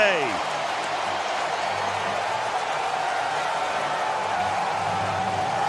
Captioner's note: cheering